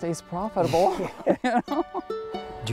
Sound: laughs

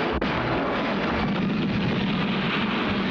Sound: explosion

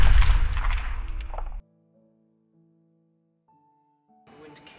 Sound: explosion

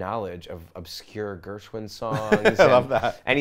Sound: laughs

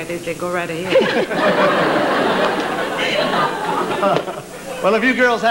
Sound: laughter

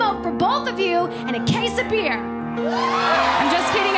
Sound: cheers and applause

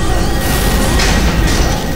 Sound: rumbling

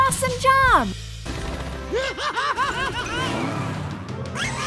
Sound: laughing

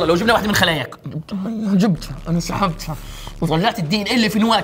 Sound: aggressively

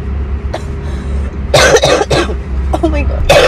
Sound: coughing

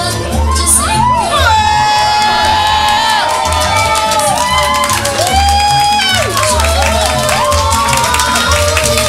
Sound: crowd is cheering

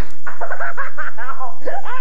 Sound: hysterical Laughter

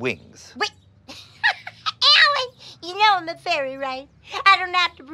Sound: laughs

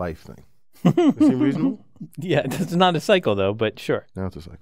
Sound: laugh

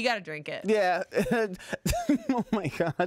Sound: laughs

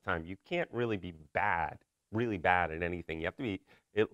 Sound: none

